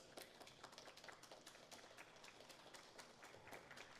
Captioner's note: audience applauding